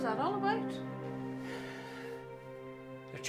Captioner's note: Patrick sighs heavily